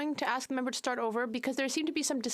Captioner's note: speaking French